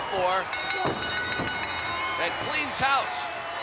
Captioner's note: bell rings